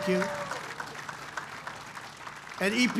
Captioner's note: applause